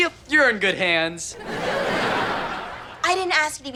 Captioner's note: audience laughter